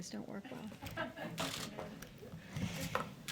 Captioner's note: laughter